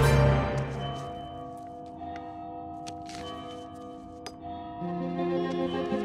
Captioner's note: bell tower ringing